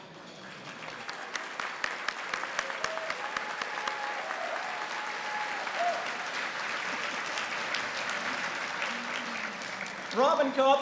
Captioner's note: applause